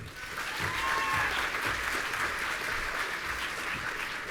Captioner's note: audience cheering